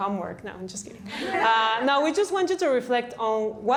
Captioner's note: laughter